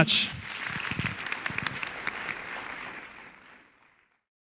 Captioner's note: audience applauding